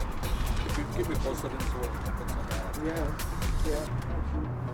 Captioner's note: men chattering